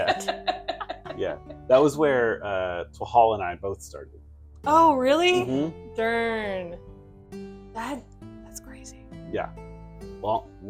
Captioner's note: hushed devilish whisper; laughter; whispering